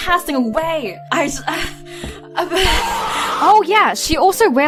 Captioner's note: heavy sighing; sigh